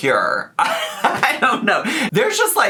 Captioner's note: laughs